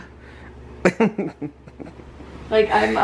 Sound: laughing

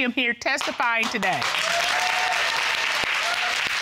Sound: audience applauding

